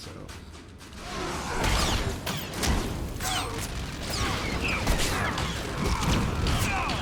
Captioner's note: gunshots